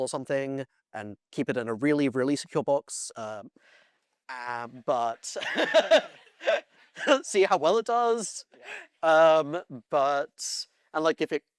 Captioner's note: laughs